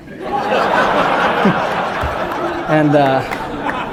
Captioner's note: laughter